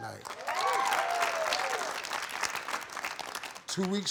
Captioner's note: audience applauding